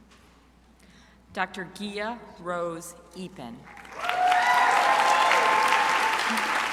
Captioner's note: crowd applauding